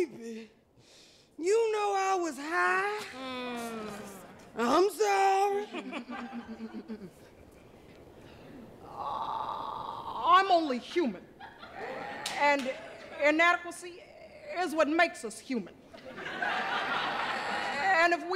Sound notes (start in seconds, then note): 5.6 laughter